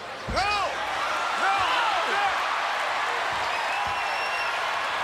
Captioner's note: crowd cheering